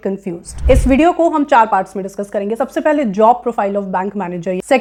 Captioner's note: speaking hindi